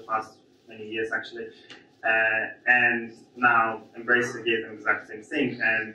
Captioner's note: none